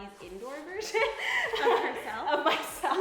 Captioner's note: laughing